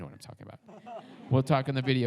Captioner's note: audience laughs